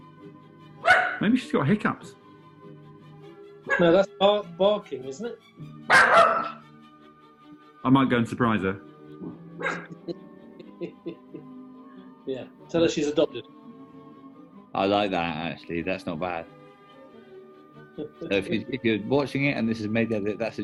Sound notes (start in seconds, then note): 0.8 dog barks; 3.3 dog yaps; 5.8 loud barking; 9.7 chuckling